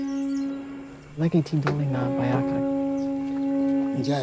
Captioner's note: trumpet sounds; foreign language